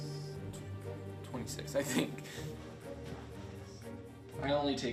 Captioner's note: laughs